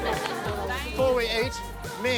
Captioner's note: chuckling; cheering